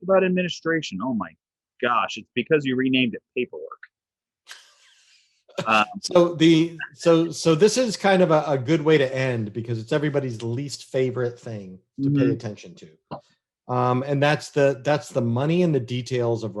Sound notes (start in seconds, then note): 5.6 laughs